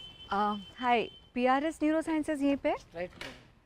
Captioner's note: mumbles a thank you